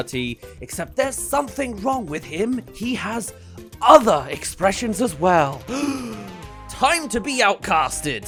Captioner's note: gasp